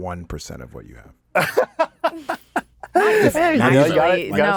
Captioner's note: Anthony laughs